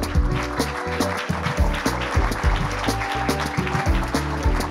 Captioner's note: light upbeat music; audience applauding